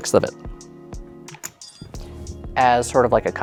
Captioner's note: tokens clatter